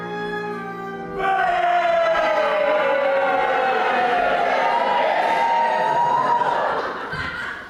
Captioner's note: audience boos, then hisses